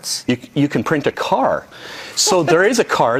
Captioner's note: laughing